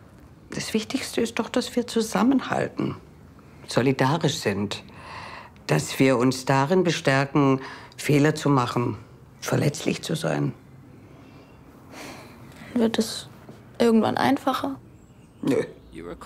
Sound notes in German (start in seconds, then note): 11.9 Seufzen